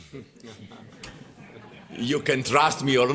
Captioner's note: laughter